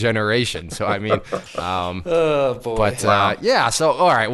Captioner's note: sighs